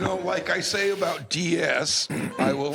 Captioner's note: laughter